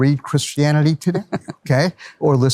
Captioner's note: laughs